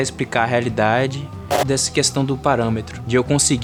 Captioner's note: crackling